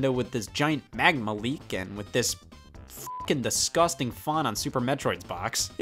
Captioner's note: beep